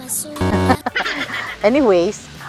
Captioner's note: laughs